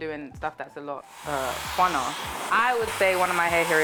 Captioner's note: blow drying